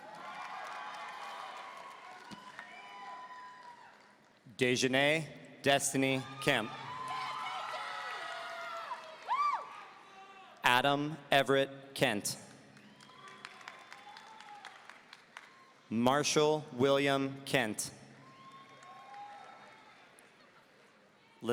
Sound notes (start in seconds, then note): 0.0 audience cheering; 6.0 audience cheering; 12.7 audience applauding; 18.2 audience cheering